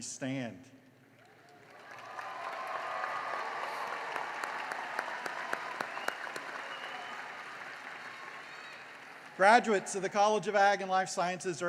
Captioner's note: cheering and applause